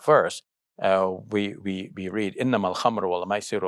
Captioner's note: speaks in foreign language